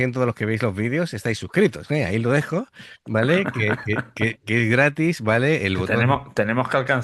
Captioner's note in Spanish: risas